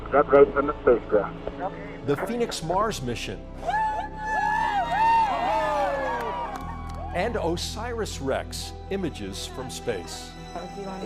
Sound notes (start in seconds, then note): 3.6 spectators yahooing